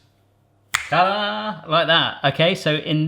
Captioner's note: snapping fingers